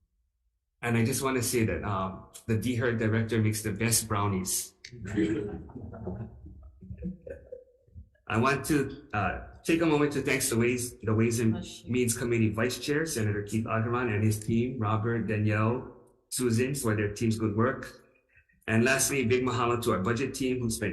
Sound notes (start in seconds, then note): 5.1 audience laughing